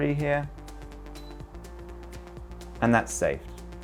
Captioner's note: screen beeps